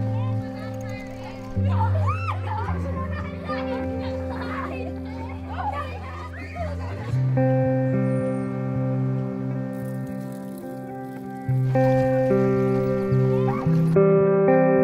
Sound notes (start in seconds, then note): 0.1 children laughing; 9.6 bike sounds